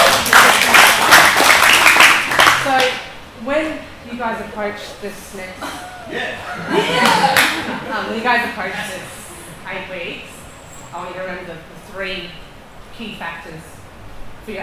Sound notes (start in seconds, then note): 0.0 cheering and clapping; 6.5 cheering